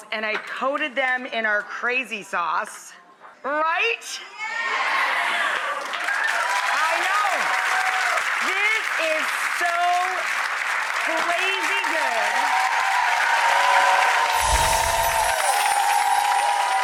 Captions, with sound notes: and I coated them in our crazy sauce. Right? (audience cheers) I know. This is so crazy-good. (audience applauding)